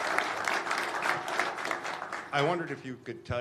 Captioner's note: applause